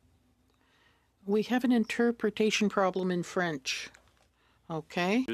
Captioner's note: speaking French